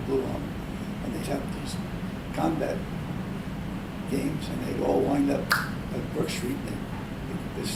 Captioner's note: claps